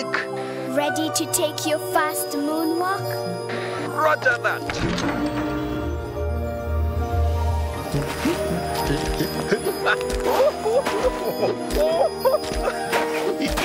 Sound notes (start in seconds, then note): 4.7 pulsating; 7.5 humming; 9.6 chuckling happily